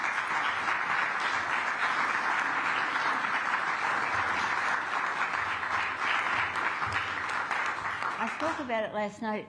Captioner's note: applause